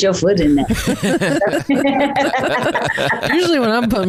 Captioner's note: all laughing